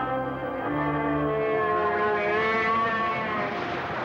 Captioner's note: howling